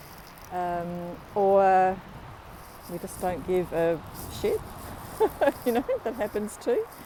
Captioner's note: laughs